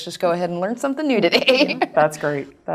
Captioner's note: laugh